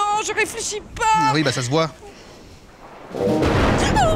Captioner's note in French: Coup de tonnerre